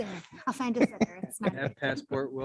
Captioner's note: faintly speaking